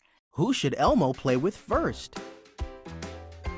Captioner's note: voiceover; upbeat music